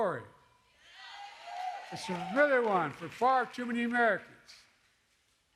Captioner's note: applause